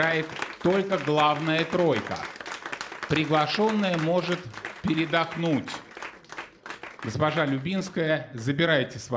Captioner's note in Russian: аплодисменты